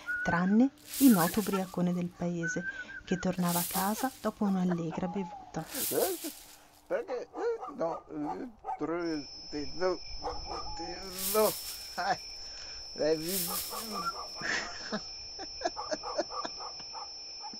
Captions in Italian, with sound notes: tranne il noto ubriacone del paese che tornava a casa dopo una allegra bevuta. [Ubriaco che ride e straparla]